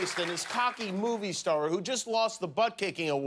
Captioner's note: applause